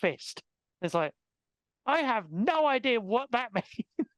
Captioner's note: laughing